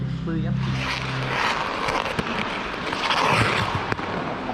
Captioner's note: skating sounds